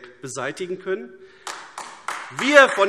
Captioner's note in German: Beifall AfD